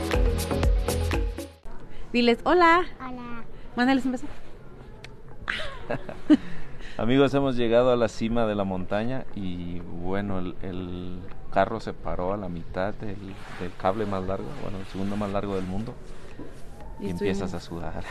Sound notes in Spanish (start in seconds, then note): 5.4 risas